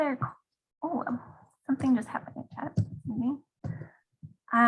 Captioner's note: faintly speaking